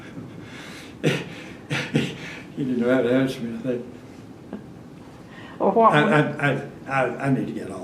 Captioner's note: laughs